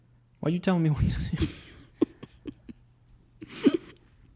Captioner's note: laughs